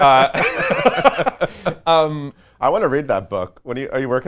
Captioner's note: laughs